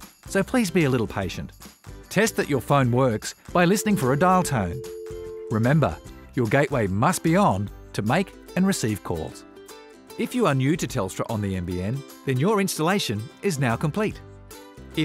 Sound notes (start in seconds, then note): 3.6 dial tone